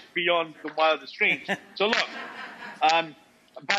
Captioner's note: Rachael and audience laugh